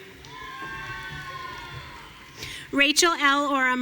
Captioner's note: audience cheering